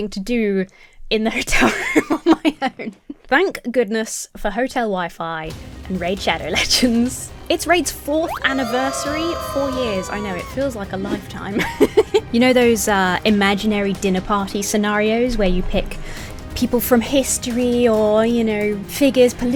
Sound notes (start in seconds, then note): 6.2 intense music; 8.3 characters cheering; 11.6 laughing